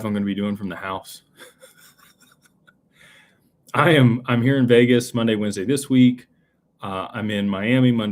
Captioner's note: laughter